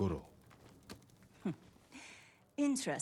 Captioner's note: laugh